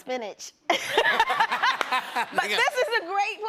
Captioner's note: laughter